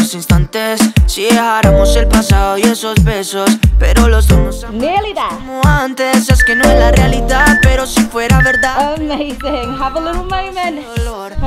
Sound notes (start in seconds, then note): 6.3 timer beeping